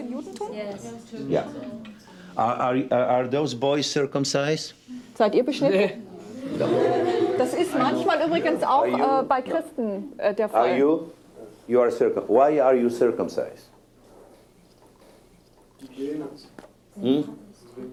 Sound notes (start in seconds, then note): 6.4 laughter